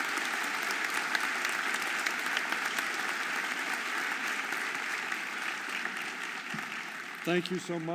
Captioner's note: audience applauding